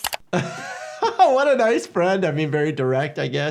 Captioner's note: laughing